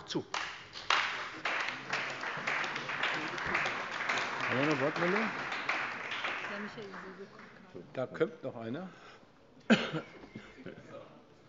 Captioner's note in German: Beifall bei der CDU und dem BÜNDNIS 90/DIE GRÜNEN